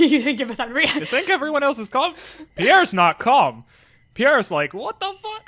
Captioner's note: stammers